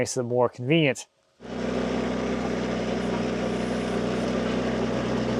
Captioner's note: engine rumbling